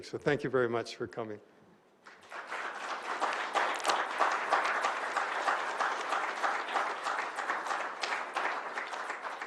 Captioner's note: applause